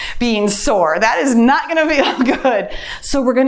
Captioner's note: laughs